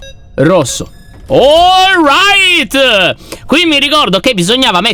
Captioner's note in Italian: alza la voce